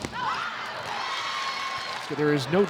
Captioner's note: players shouting indistinctly; audience cheering